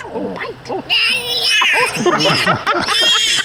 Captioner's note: laughter; squealing